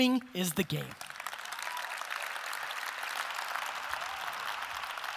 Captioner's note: audience applause